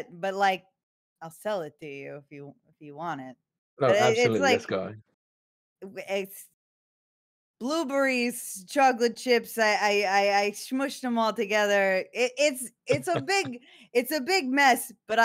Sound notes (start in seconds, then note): 12.9 laughs